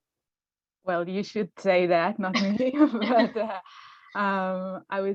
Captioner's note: laughs